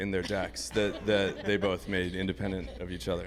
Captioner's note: group laughing